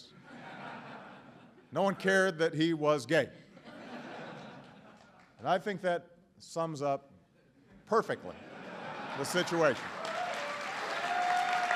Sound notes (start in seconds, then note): 3.4 laughter; 9.3 applause